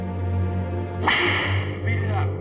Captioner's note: whip cracks